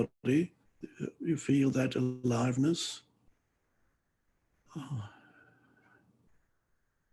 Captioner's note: exhales loudly